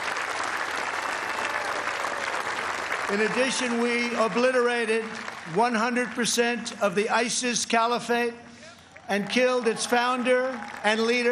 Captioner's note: applause